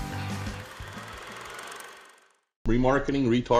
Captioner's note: movie projector spooling